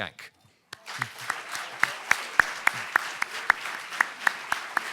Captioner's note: audience applauding